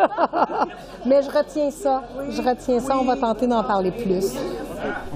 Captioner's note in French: rires